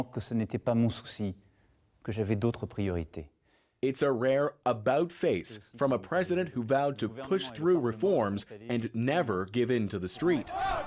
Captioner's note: speaking French